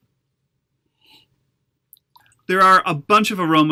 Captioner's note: sniffs